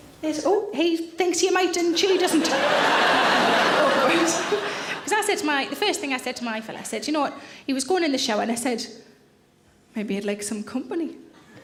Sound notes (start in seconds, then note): 1.9 audience laughing